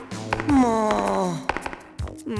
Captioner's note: sigh